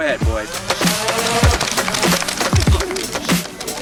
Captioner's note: gun motor sound